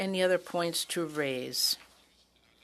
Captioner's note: speaking French